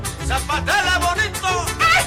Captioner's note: mariachi music; clapping, cheering